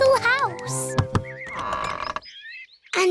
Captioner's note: door creaks